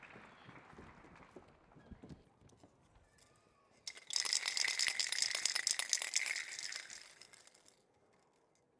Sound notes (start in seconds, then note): 3.8 paint cans rattling